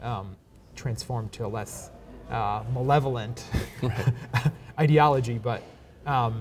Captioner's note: chuckles